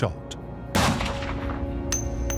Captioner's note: gunshot